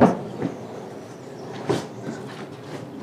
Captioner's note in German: Schnauben